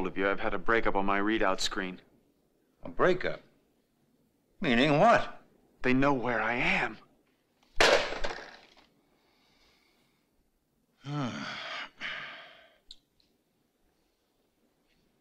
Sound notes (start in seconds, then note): 7.9 phone receiver slamming